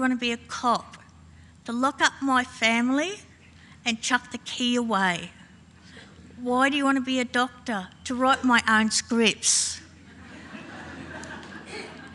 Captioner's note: laughing